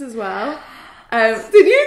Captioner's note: gasps